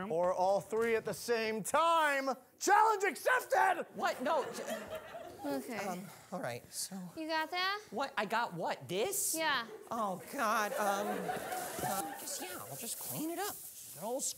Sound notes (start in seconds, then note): 10.1 audience laughing